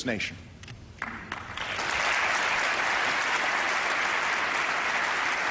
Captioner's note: applause